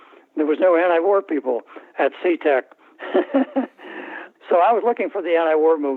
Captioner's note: laughter